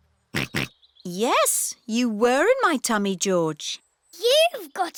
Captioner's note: snorts